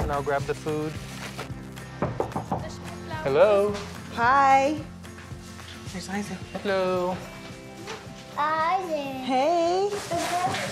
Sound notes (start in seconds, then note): 2.0 knocking